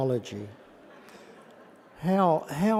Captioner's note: laughter